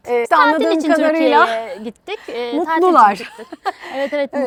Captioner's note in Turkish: kahkaha